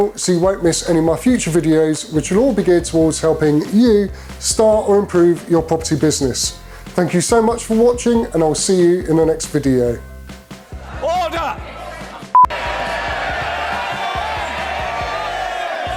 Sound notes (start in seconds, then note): 10.7 crowd yelling; 12.3 beep; 13.1 crowd yelling